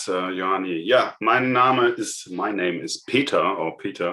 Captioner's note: speaking in foreign language